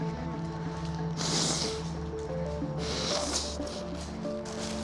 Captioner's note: blowing nose